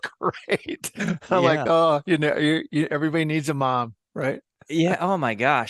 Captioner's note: laugh